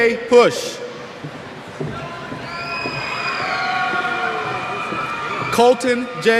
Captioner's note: cheers